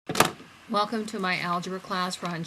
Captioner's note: voiceover